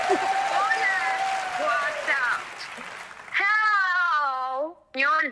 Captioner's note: foreign language